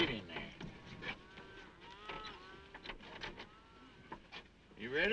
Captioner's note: cows mooing